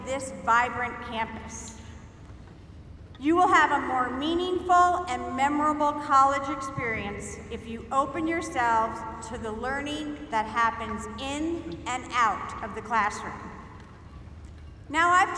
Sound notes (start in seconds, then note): none